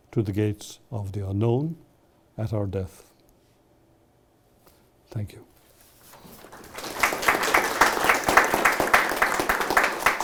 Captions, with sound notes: to the gates of the unknown at our death. Thank you. (audience clapping)